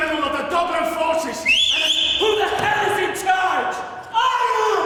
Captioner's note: whistles